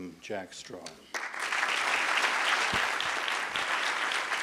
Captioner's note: applause